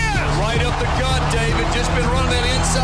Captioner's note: voiceover